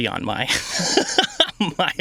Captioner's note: laughing